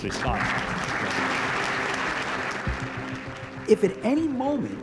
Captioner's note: audience applauding